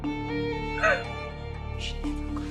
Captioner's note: sobbing